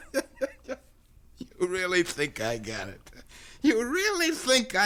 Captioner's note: laughs